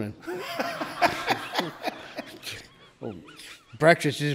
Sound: laughs

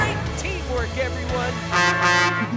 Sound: truck horn; giggling

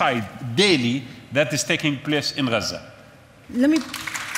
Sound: audience applauds

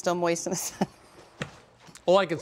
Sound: laughter

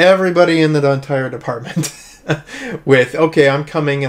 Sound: laughs

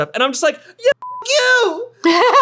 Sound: beep; laughing

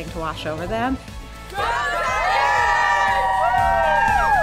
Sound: students Cheering

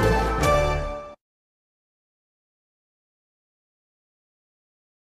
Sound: upbeat orchestral music; silence

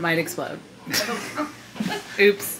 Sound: people laughing

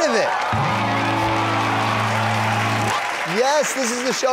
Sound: applause / Music

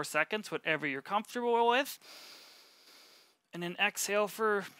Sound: inhales

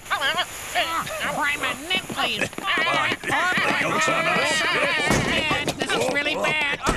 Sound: babbling, shouting, scuffling

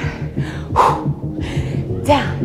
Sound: exhales

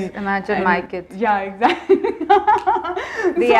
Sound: laughs

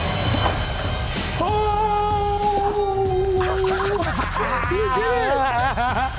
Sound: laughs

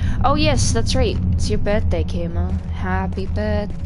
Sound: British accent

